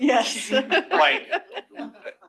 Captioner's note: laughter